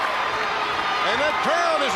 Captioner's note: crowd chatter